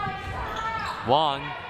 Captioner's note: crowd cheering